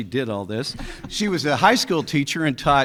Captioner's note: people laughing